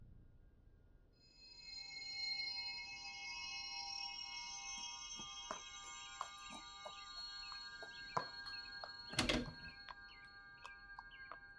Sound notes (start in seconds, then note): 5.1 footsteps; 9.1 door opens